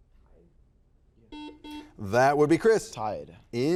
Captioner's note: buzzer buzzes